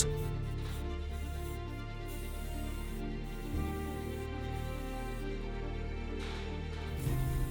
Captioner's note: gentle music continues; spray whooshing